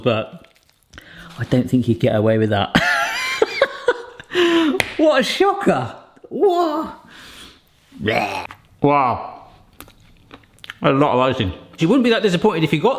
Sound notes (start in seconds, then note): 5.0 laughs; 8.0 grunts